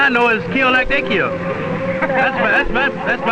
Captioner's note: man laughing